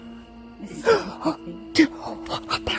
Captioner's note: chuckling; gasping